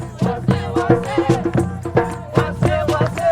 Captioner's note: crowd